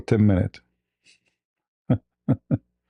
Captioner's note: ketawa